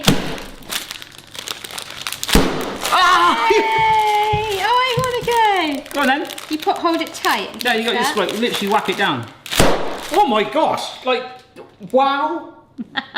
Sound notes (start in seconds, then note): 0.2 packet whacking on counter; 9.7 packet whacks on counter